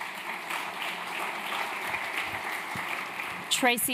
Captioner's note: applause